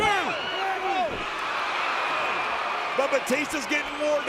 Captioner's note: audience cheering